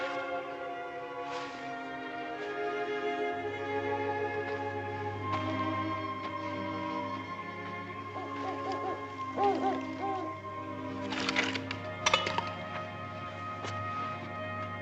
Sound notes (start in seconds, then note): 8.0 owl hooting